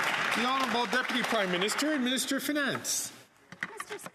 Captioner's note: some Applause